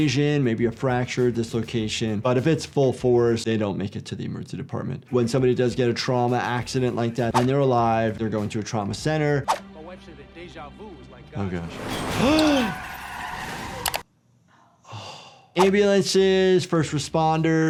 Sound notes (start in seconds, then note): 11.7 tires squealing; 12.1 ambulance whooshing; 12.3 gasping